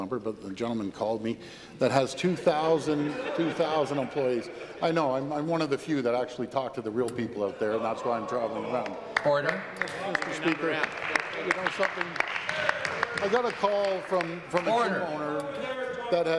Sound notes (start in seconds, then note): 6.8 laughter; 15.3 applause